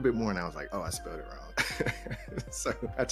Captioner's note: chuckles